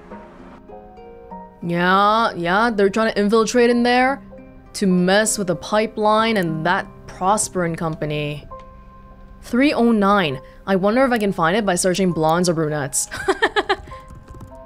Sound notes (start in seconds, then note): 13.1 chuckles